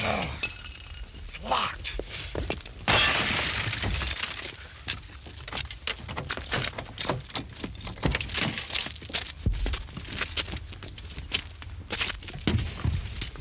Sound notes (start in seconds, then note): 2.8 glass shatters